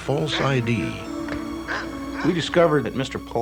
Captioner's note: dog barking